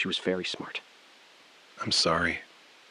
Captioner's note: beat